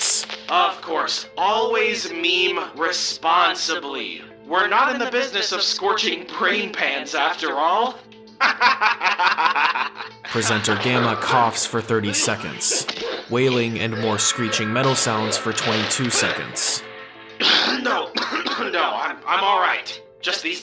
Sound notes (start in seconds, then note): 8.4 Entity laughs loudly; 14.0 wailing and more screeching metal sounds for twenty-two seconds